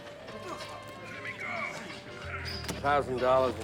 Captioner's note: groans